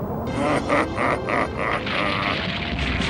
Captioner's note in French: Rire diabolique